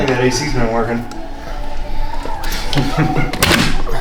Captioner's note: laughing